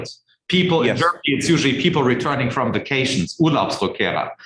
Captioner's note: speaking foreign language